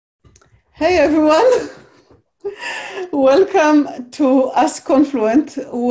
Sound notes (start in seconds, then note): 1.1 chuckles